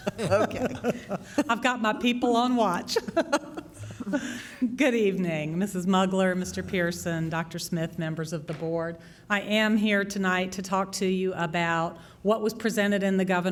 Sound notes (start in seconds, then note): 2.9 laughter